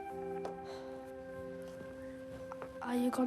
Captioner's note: pensive music; sighs